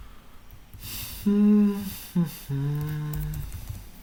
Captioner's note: hums